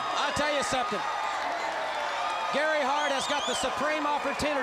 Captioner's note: crowd cheering